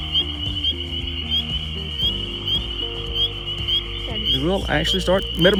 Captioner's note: frogs peeping